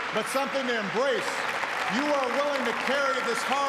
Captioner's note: cheers and applause